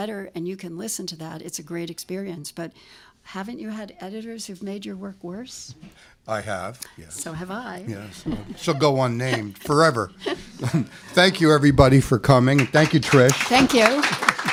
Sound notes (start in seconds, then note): 8.0 laughter